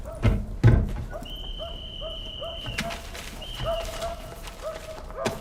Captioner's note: whistle blowing; barking continues